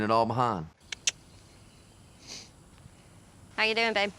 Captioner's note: clicks tongue